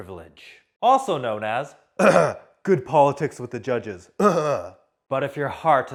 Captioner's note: cough